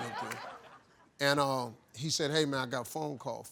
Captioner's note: crowd laughing